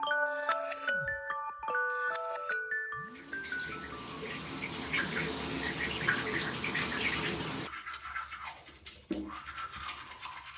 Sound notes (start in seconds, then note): 0.4 phone alarm; 3.0 shower; 8.2 brushing teeth